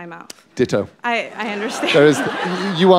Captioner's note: laughter